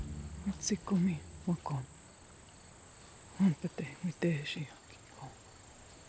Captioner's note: Mollie speaking in foreign language